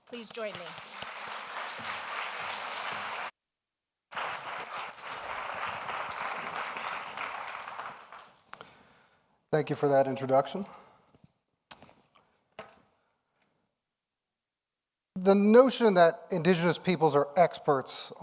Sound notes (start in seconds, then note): 0.1 audience applauding